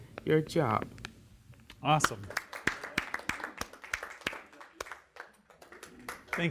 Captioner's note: applause